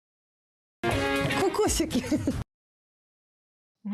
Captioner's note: laugh